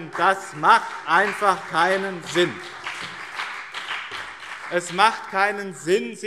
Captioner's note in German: Beifall BÜNDNIS 90/DIE GRÜNEN und CDU